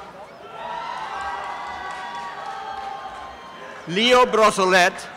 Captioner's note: applause and cheering